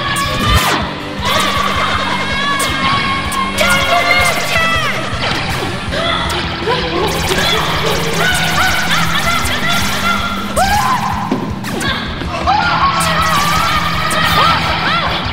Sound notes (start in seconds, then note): 0.2 high energy arcade music; 3.8 shouting; 8.1 screaming